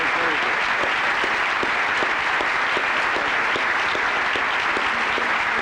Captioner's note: applause continues